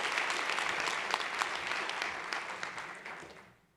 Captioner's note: applause